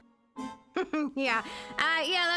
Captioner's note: chuckles